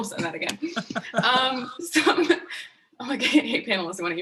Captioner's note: laughing